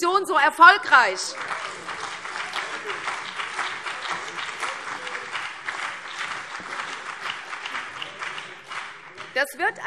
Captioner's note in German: Beifall CDU und BÜNDNIS 90/DIE GRÜNEN